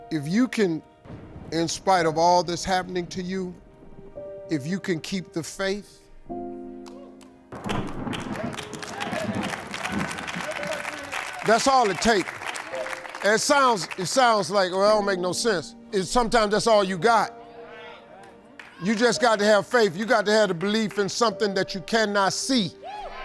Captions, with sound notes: If you can, in spite of all this happening to you, if you can keep the faith, (thunder strikes) (crowd applauds) that's all it take. It sounds like, well it don't make no sense, sometimes that's all you got. You just got to have faith. You got to have the belief in something that you cannot see.